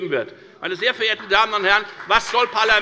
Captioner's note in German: Beifall bei der FDP und bei Abgeordneten der CDU